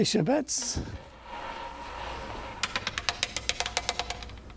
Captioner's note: roulette wheel rolling